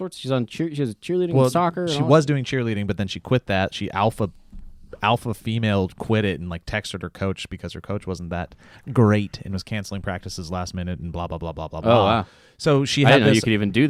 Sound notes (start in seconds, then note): none